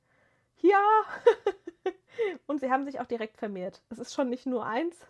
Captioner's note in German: gelächter